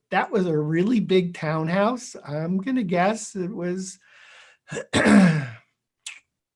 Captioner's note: clears throat